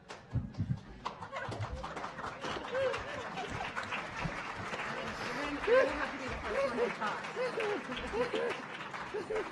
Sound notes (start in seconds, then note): 0.8 audience applauding